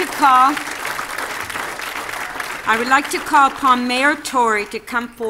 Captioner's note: applause